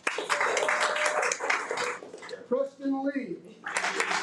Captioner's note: audience applauding; audience applauding